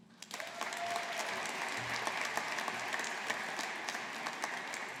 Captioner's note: audience applauding